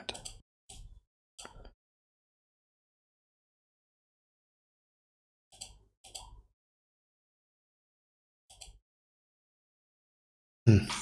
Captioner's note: blank Audio